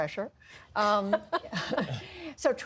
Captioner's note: laughter